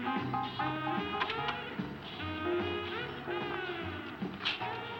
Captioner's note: door unlatching